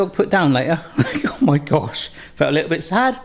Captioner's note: laughs